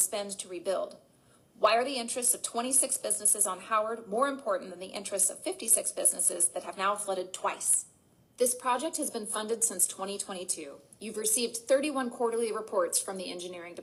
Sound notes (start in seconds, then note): none